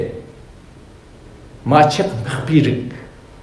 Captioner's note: tibetan